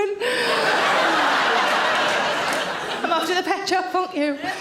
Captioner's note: audience laughs